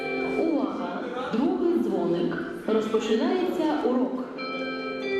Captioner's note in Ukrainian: звучить оголошення